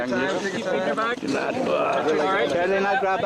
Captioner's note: rescuers all chat together